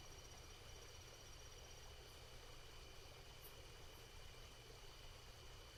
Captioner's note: water babbling